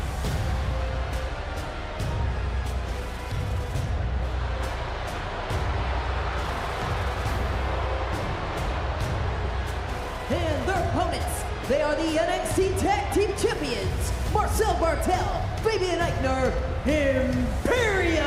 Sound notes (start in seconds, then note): 7.9 crowd boos